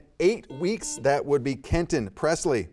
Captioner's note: buzzer beeping